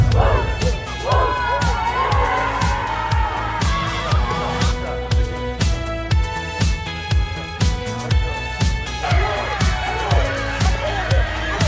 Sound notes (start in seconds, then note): 2.2 cheering; 4.5 dramatic music; 7.2 cheering